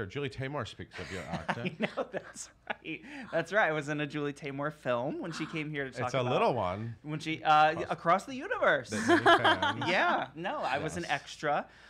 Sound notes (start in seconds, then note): 8.9 laugher